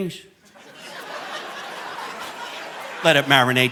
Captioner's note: audience laughing